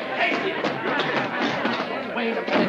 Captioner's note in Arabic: الناس يتحادثون